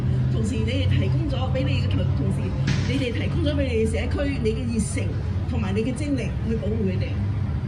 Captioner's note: speaking foreign language